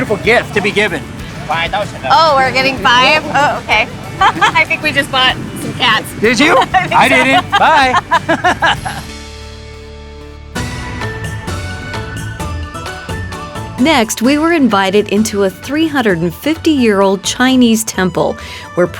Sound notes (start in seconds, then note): 8.2 laughs; 10.7 upbeat music